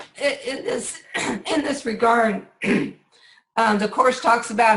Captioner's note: clears throat